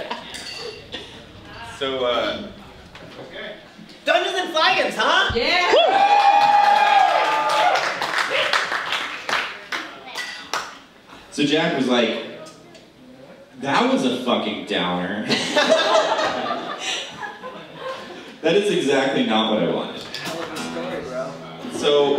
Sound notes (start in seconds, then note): 5.7 applause, cheers; 15.2 laughter